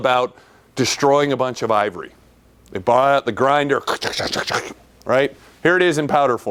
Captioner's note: imitated grinding noises